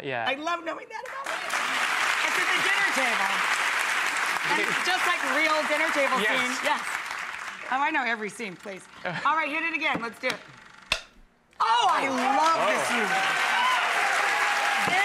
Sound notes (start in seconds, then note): 10.8 click; 11.8 applause